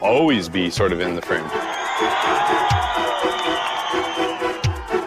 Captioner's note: crowd cheering